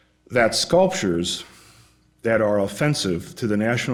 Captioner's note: none